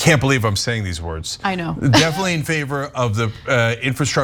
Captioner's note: laugh